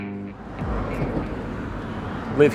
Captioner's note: city sounds